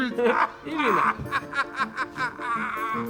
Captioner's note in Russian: смех